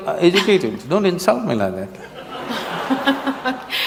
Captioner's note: laughter